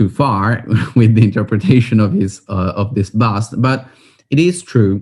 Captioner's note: laughing